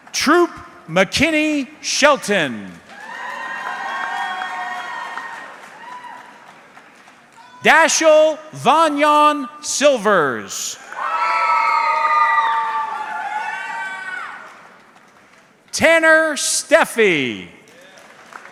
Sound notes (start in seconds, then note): 2.9 audience cheering; 10.8 audience cheering